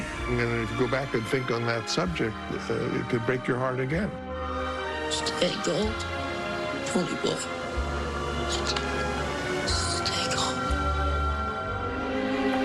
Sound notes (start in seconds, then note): 9.3 whispers